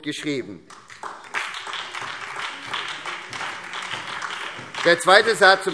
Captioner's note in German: Beifall SPD und vereinzelt DIE LINKE